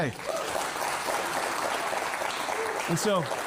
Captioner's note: applause